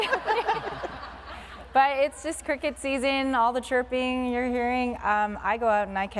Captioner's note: laughter